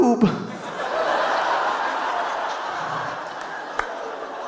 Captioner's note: audience laughing